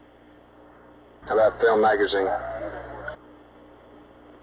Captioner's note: mission Control Audio